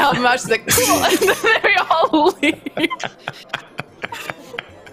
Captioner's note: laughing